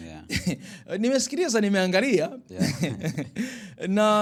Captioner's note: laughter